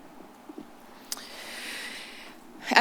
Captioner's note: clucks